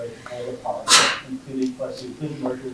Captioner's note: audience member sneezing